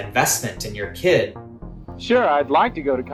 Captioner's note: soundbite of archived recording